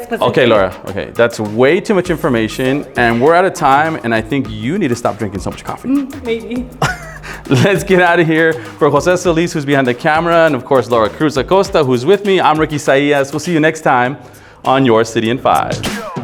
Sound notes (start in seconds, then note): 6.7 laughing